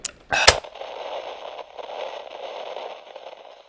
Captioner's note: static